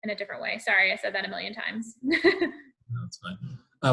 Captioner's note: laughs